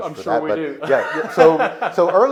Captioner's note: laughing